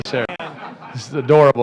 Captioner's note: laughter